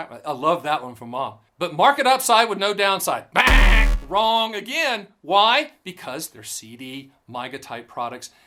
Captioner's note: buzz sound